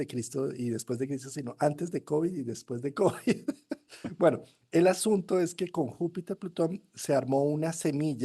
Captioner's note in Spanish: risas